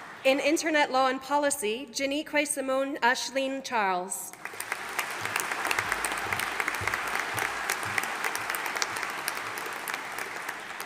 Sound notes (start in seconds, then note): 4.3 audience applauding